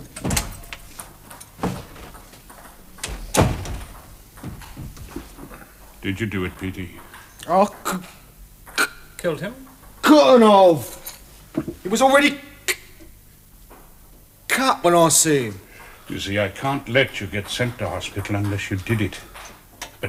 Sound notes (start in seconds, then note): 2.4 ping pong game cracking